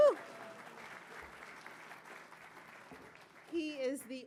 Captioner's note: audience cheering and clapping